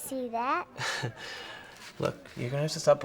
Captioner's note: Daniil laughing